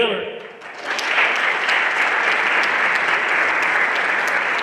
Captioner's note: everyone applauding